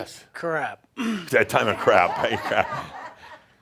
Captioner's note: laughter